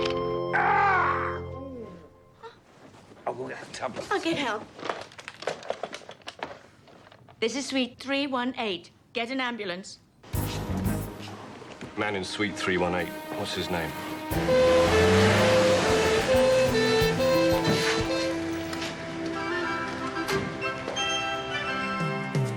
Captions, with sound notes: (Harry screaming) - I've only had a tablet. - I'll get help. This is suite 318. Get an ambulance. - Man in suite 318, what's his name? (siren blaring) (dramatic music continues)